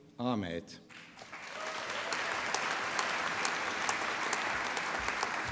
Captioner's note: applause